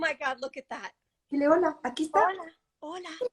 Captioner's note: speaking spanish